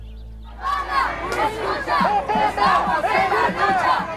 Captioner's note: chanting in Spanish